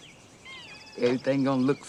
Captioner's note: birds chirping; cat mewing